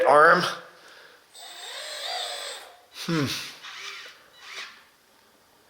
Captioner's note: excavator squeals